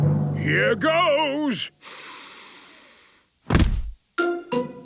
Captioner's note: dramatic drumming music; sniffs